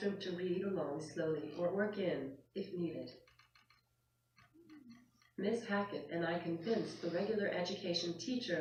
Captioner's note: clicking from the head pointer on screen